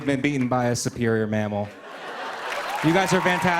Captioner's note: cheers and applause